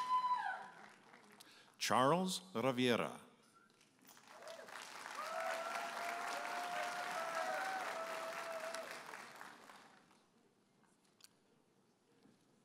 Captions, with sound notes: Charles Rivera. (audience applauding and cheering)